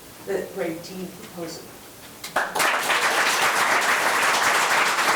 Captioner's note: members applauding